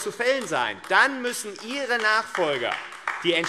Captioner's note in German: Beifall AfD